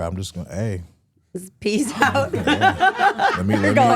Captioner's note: laughs